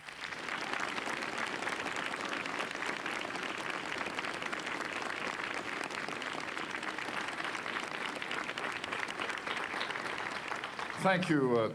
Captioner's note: applause